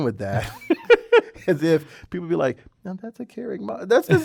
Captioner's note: laugh